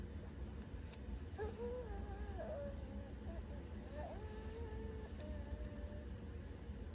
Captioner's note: unintelligible humming